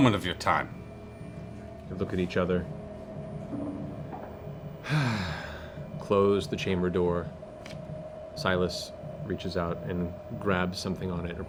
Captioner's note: sighs